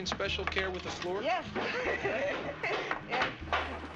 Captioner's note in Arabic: يضحك